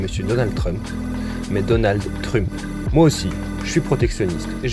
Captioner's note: with French accent